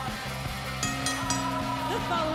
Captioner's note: bell rings